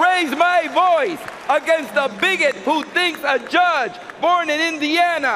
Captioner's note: cheering and applause